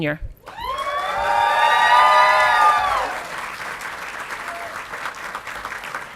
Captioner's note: audience clapping and cheering